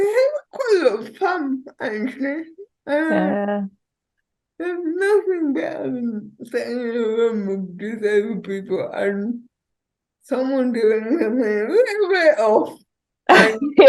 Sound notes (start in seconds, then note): 10.2 laughing